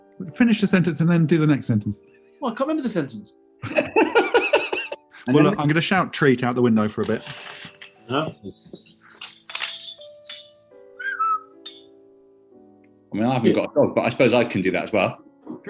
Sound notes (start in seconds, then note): 3.6 giggling; 9.1 keys jangle; 10.9 whistles